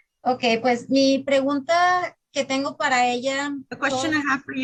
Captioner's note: speaking in Spanish